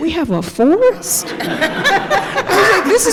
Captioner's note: laughter